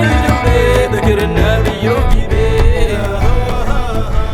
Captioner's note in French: chant